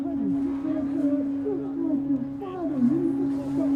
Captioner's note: muffled chatter